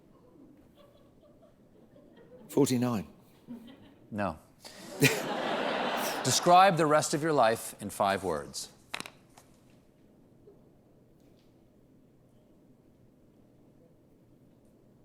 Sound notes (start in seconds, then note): 4.7 laughter